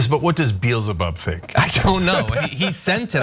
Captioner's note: laugh